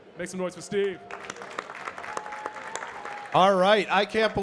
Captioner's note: audience clapping and cheering